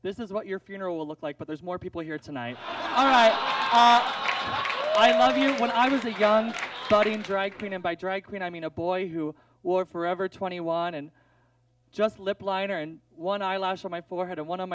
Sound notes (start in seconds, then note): 2.5 audience laughs